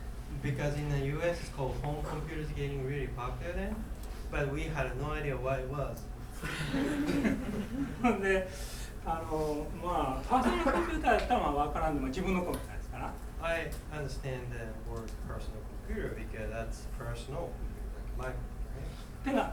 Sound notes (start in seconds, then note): 6.4 students laughing; 8.3 speaking in foreign language; 10.4 coughing